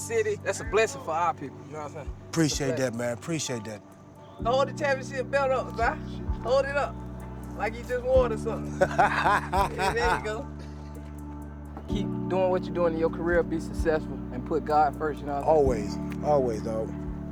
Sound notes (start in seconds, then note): 8.4 laugh